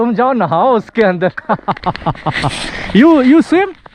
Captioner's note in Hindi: हंसी